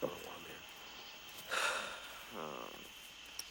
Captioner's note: sighing